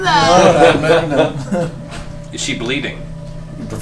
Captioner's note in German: Gelächter